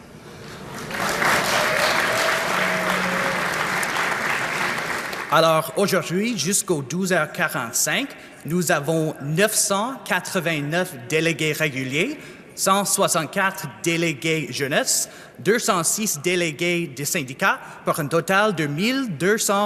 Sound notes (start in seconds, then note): 3.4 applause